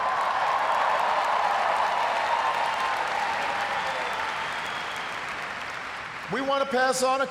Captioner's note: cheers, applause